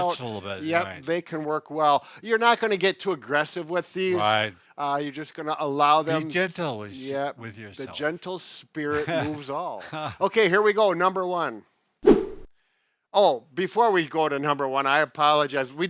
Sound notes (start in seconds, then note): 8.8 laughs